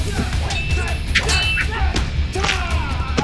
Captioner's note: thudding; metal clinking; bones creaking